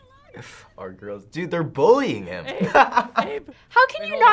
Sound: laughs

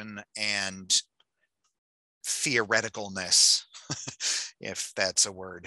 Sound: chuckling

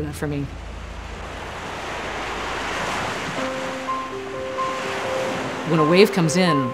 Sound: soft piano music; waves whooshing

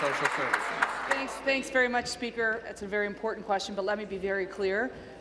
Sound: applause

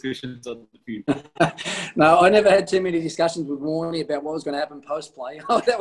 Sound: laughs

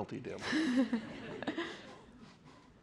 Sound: laughter

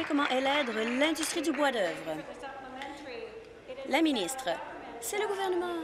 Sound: applause

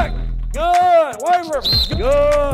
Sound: whistle

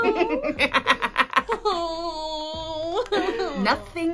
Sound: evil Laugh; Cat Woman cries

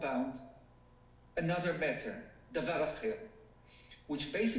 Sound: speaking foreign language

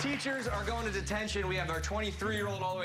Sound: cheers and applause

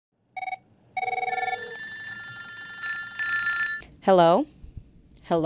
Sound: telephones ringing

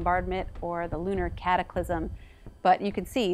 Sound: pounding

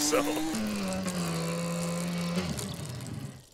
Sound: stepping on brakes

